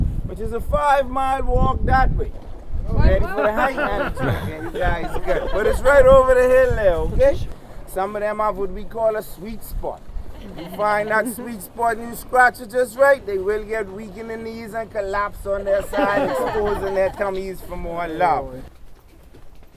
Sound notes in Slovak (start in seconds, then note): 3.2 smiech; 15.5 smiech